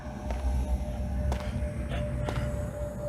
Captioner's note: footsteps